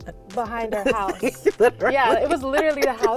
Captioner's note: laughing